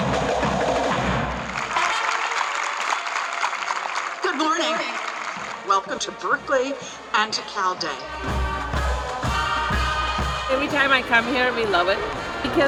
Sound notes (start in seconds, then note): 0.9 audience clapping